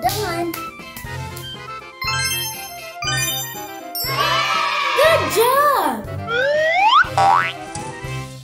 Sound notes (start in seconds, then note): 2.5 twinkling